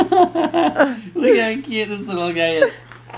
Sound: baby laughing; laughing

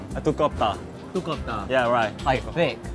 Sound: speaking Korean

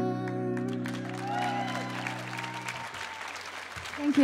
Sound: audience applauding and cheering

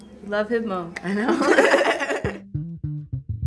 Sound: both laugh

